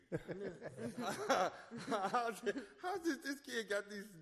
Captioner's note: laughs